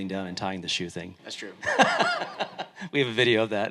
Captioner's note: laughing